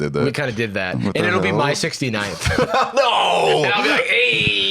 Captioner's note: laughing